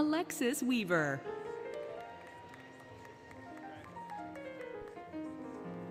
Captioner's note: applause, Cheering, Music